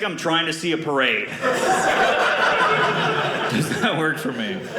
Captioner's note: audience laughing